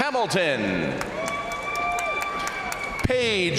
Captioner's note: crowd cheering; crowd applauding